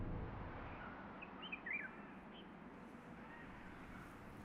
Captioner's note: birds singing